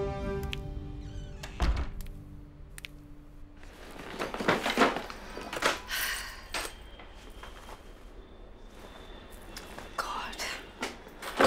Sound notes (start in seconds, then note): 1.0 Door closes; 5.8 Sighs